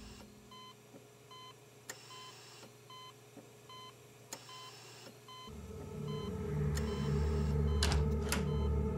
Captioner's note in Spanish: Sonido del monitor